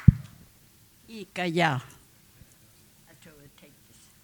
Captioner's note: speaking Comanche